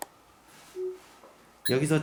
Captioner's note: alarm